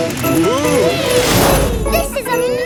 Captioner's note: all exclaiming